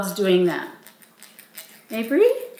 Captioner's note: teeth scraping